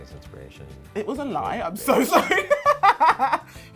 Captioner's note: laughs